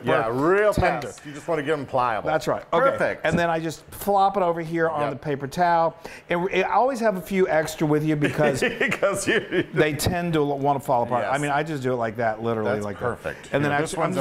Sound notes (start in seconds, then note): 8.2 laughing